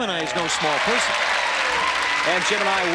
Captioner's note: applause and cheering